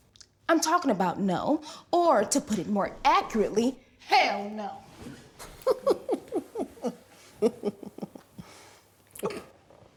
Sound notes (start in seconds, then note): 5.6 ANEESHA laughing